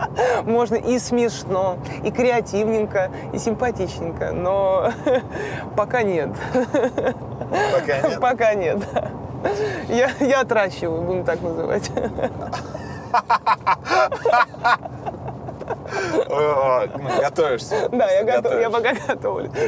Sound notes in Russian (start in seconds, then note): 6.2 смеётся; 12.0 смеётся; 13.0 Дудь хохочет